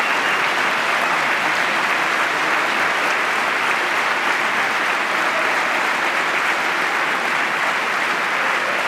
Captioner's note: applause